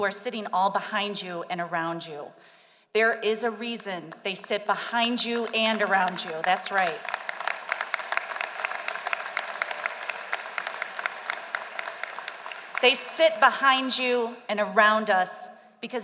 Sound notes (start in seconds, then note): 7.3 applause